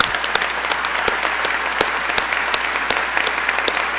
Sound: applause

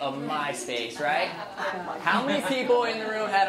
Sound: audience laughs

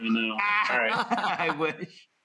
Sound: laughing

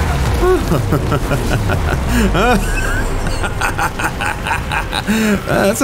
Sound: evil Laughter

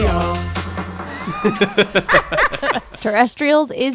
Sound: laughing

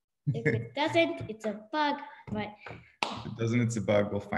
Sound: claps

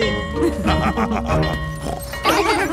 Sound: school bell ringing; both laughing; daddy pig snorts

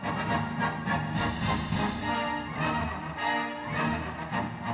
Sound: none

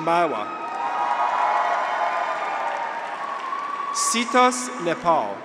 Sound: graduates cheer; audience applauds

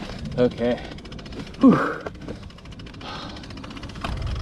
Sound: sighs

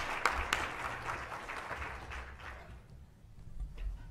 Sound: applause

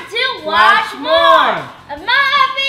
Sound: in Unison

